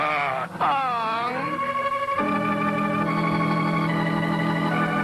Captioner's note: Mr. Magoo groans